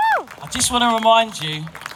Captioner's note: applause